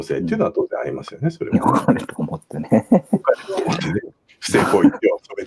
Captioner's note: laughs